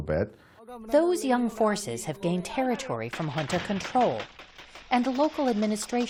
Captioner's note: voice-over